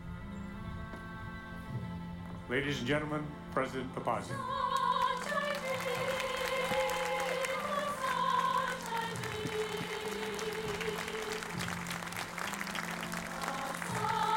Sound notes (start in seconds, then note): 4.2 choir singing; 4.7 audience applauding